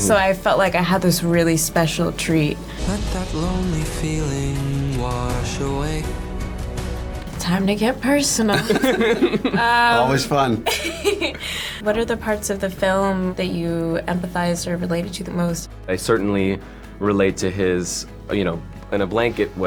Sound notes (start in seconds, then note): 3.3 singing; 8.4 laughs